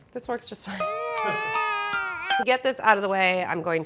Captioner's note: baby crying